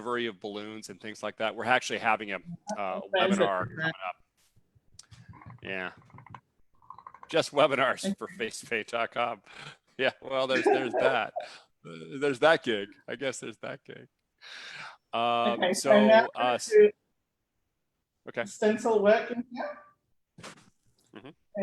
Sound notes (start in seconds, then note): 10.5 laughs